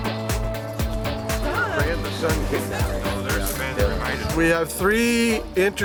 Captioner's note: all chatting